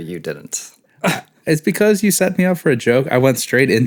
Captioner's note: scoff